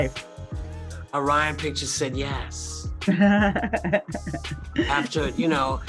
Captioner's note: laughs